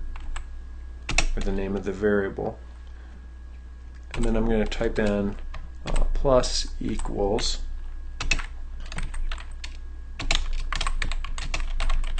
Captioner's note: typing sound